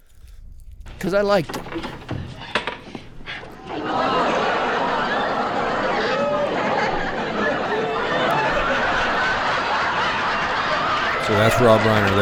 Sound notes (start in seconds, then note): 3.7 audience Laughing